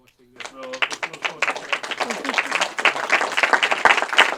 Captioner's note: audience applauds